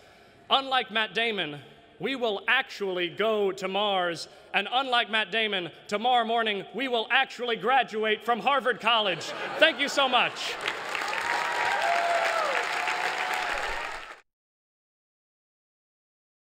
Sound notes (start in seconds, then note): 9.2 cheering